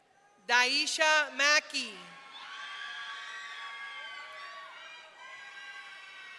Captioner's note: audience cheering